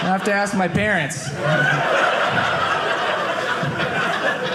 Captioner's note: audience laughing